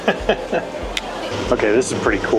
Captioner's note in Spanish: Risas